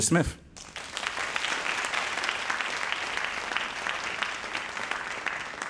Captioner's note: audience applauding